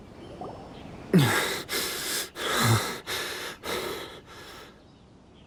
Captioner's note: panting